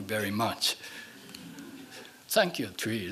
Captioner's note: laughing